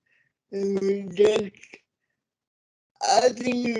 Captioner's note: audio distorts; audio distorts